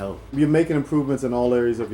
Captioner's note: voiceover